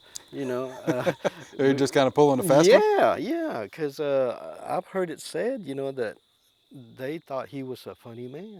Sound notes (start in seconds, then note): 0.3 laughing